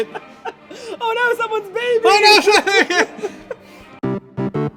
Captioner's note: laughter